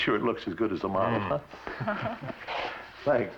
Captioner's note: laughs